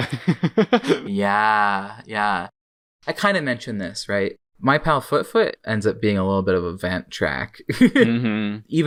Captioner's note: laughs